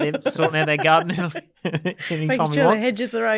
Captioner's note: group laughs